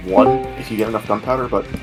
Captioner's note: discord join sound